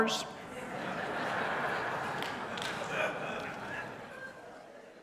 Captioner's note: congregation laughing